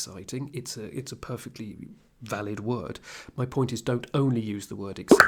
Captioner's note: in English